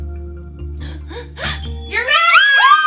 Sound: gasps

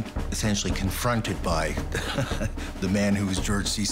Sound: laughs

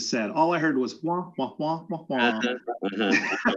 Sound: chuckles

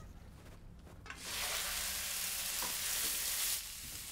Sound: sizzling

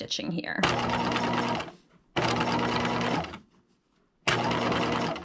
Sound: sewing machine clunking

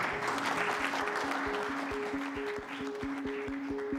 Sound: applause

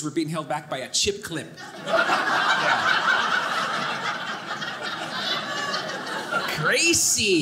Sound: audience laughing

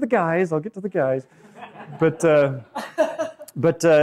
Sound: laughing

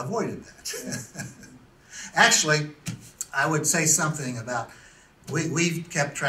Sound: laughs to self

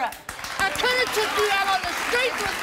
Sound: audience claps

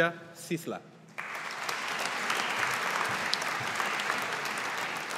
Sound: audience applauding

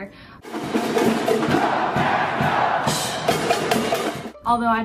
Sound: supporters cheering

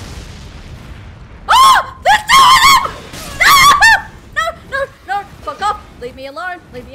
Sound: scream

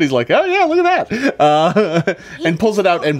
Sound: laughs

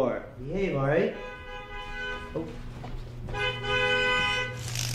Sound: car hooter honking

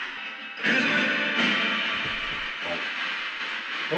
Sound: radio noise continues; radio noise swelling

